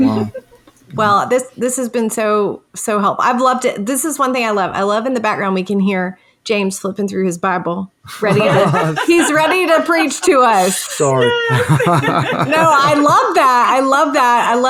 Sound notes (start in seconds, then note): 8.0 laughing